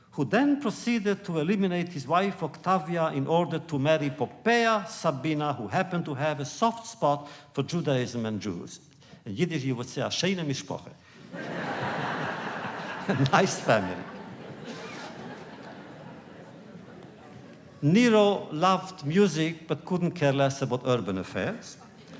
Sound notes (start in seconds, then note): 11.2 laughter; 11.3 laughs; 21.7 laughter